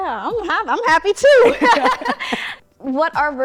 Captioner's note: laughter